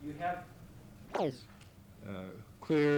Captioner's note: camera noise